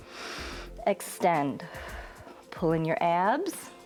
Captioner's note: exhales; inhales